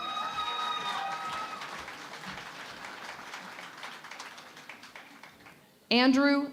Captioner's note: cheering and Applause